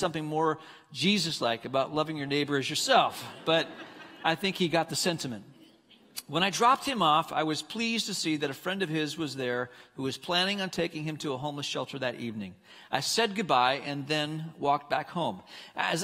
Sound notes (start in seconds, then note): 3.2 congregants laughing